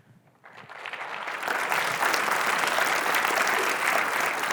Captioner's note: audience applauds